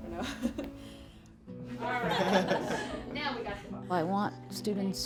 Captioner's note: laughing